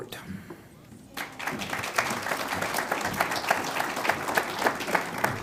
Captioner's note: audience applauds